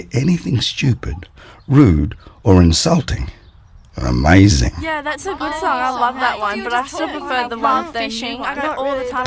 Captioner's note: and the girls all chattering at once